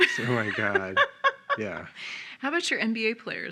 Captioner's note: laughing